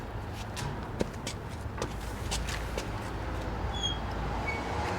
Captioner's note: footsteps thudding